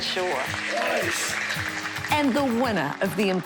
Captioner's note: cheers and applause